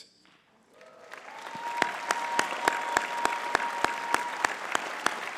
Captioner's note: audience cheering and clapping